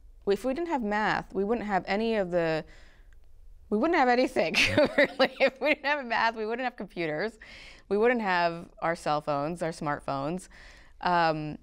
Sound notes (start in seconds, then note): 4.5 laughter